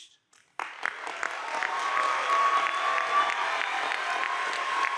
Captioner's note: audience applauding